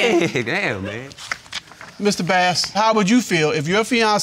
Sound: laughs

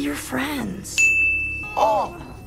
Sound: ding

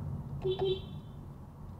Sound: beepbeep

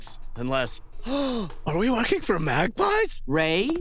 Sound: gasp

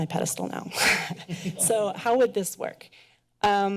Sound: chuckles

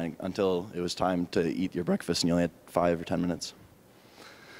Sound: none

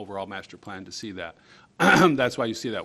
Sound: clearing throat

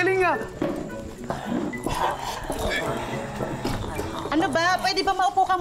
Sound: zombie grunts

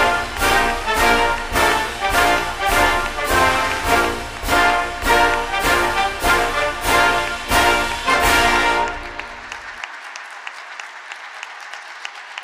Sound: band plays; applause

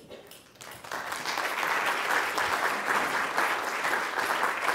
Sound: audience applauds

